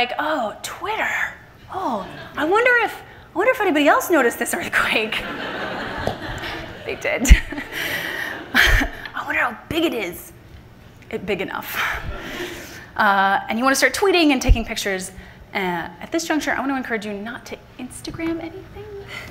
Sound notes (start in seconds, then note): 5.2 everyone laughing; 8.0 laughs; 12.0 laughter from the audience